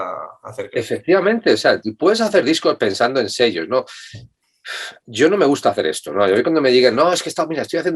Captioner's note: pff